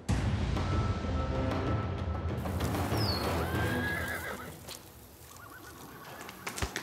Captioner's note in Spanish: relinchos